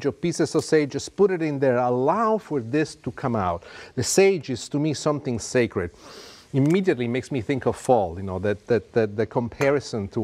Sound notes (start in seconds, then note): 6.0 sniffs